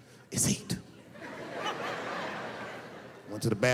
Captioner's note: laughing